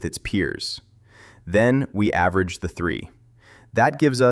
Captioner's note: thoughtful